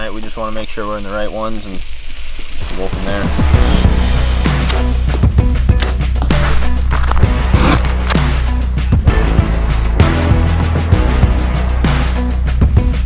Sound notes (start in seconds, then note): 3.3 intense electronic music; 4.9 bow twangs; 7.8 arrow scrapes